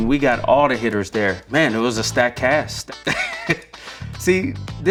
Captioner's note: laughs